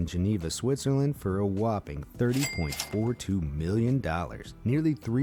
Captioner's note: cash register ringing